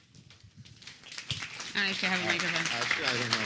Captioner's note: applause